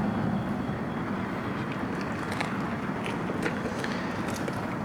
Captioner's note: car engines rumbling